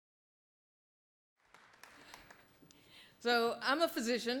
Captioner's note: audience applauding